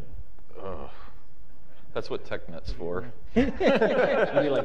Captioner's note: groans; laughter